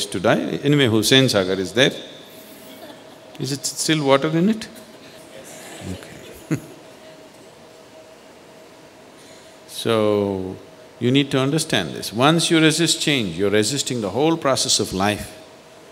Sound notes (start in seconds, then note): 4.7 meditators Laugh; 8.8 laughs